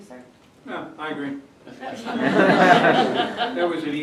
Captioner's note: laughter